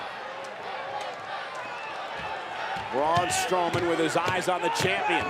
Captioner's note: applause